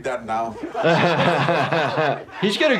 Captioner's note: Jackass members and Jordan laugh